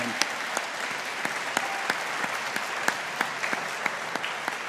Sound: audience applauding

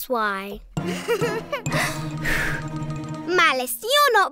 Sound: giggling

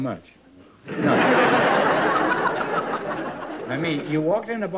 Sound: laughs

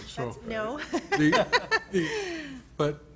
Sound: laughs

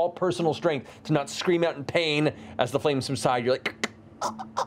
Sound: gasping

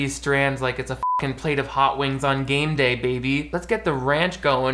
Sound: beep

